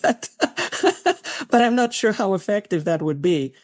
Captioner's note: laugh